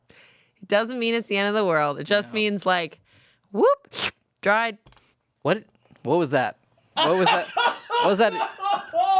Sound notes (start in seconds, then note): 3.9 slurps; 7.0 laughs